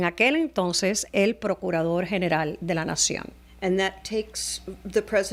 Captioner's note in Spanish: Hablando ingl\s